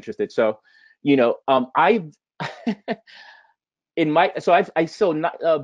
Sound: laughing

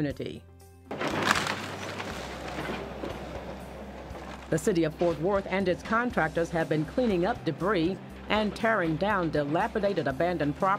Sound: excavator noise

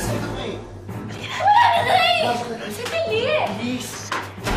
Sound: Tisha screams

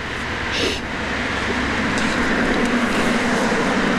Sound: sniffs

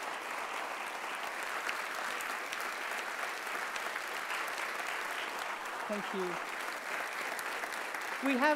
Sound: applauds

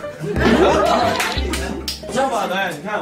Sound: clapping

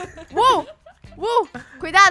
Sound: laughing on the background; laughing

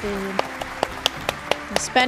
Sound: applause

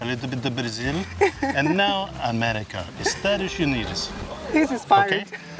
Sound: in Portuguese

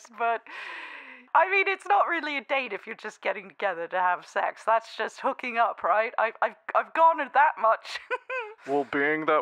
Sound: giggles

